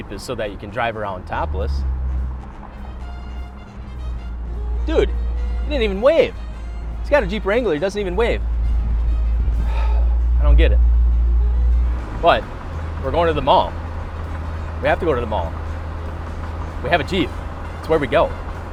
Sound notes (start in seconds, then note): 3.0 upbeat music; 9.5 sighs